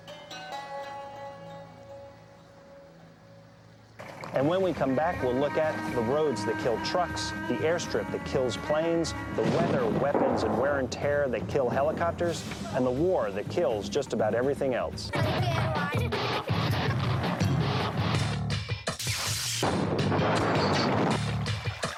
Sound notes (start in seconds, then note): 0.2 relaxing instrumental music; 3.9 vehicle humming; 15.0 kids chatting; 15.2 kids giggling; 16.7 dramatic instrumental music; 19.6 cannon shots exploding; 21.5 water trickling